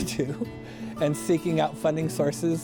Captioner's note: laughs